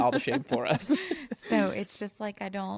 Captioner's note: laughs